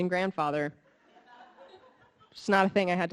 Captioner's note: audience laughing